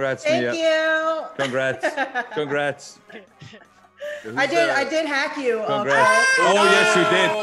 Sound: laugh; laugh

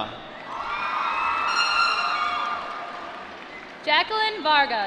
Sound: applause

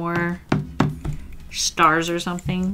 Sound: tapping

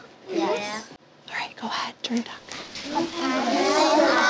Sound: whispering; class chattering

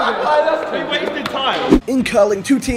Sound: laughing

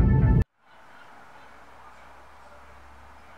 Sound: distant bird noises

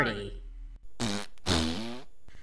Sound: fart noises

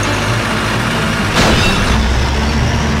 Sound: metallic sound

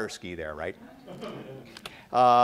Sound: laughter

